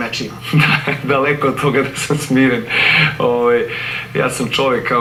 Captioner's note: laughs